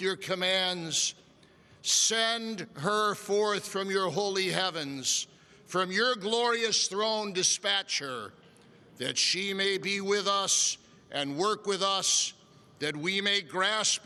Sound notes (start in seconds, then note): none